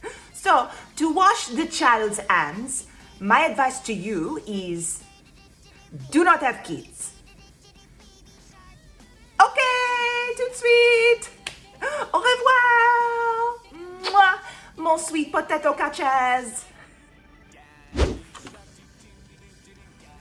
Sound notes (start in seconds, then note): 13.9 Smooch